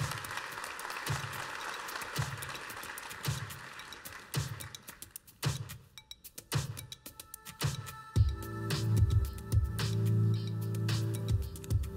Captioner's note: applause